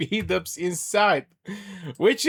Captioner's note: laughter and gasps